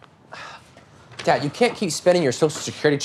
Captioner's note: sighs